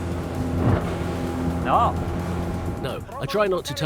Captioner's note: boat knocking